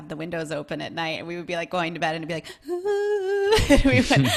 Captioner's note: humming